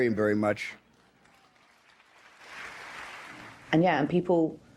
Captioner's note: audience applauds